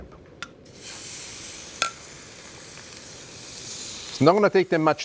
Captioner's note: shrimp sizzles